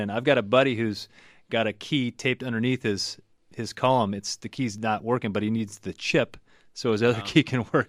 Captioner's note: laughs